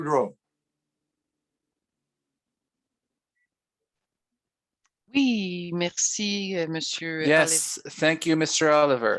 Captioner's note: speaking French